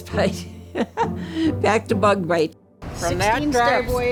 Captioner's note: laughs